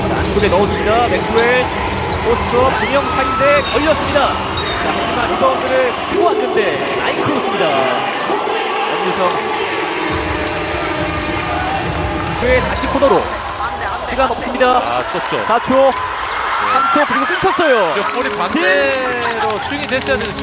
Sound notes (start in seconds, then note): 12.4 cheering for the defense